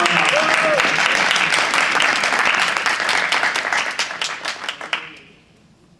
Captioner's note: audience cheering and applauding